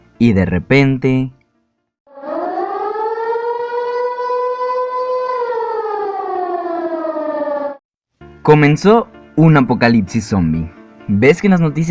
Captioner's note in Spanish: sonido de alarma